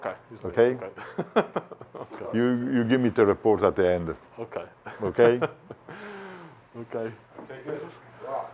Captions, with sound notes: - Okay. [chuckles] - You give me the report at the end. - Okay. - Okay. [chuckles] - Okay.